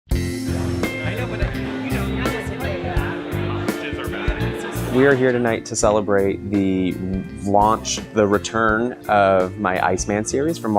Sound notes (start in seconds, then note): 0.2 upbeat music; 0.6 crowd chatters